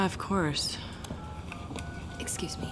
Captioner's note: phone beeping